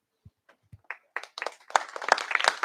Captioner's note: applause